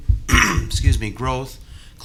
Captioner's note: clears throat